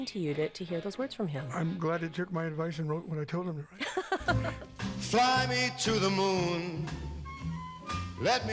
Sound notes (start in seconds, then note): 3.8 laughter